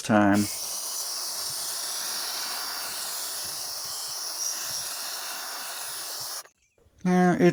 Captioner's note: hissing sound